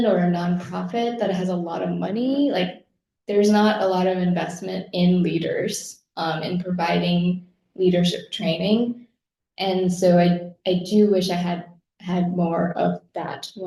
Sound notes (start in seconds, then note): none